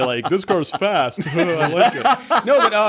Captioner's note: laughter